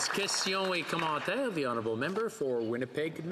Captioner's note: some Applause